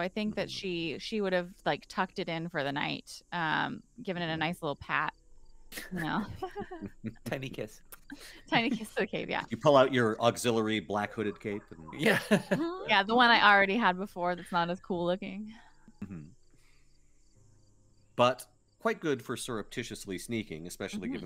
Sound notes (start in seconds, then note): 5.8 all laughing; 7.9 lips squeak